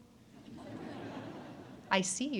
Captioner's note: audience laughs